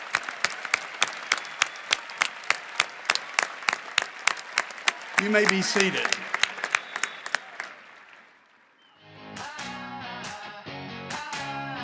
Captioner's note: cheering and applause